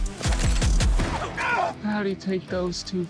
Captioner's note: yelps